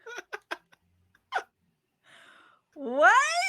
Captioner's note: laughs